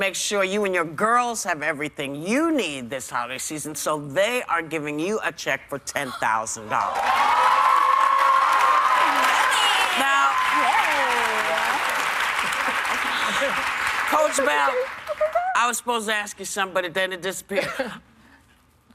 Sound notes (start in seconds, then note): 11.8 cheers and applause